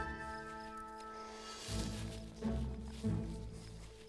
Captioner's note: cricket chirping